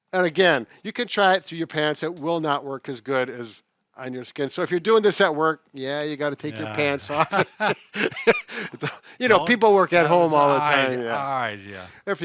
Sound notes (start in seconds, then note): 6.4 laughs